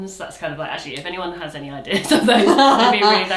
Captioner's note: chuckles; laughs